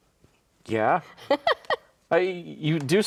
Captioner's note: laughs